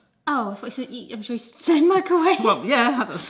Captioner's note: chuckles